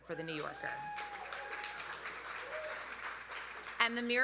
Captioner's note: audience cheering; audience applauding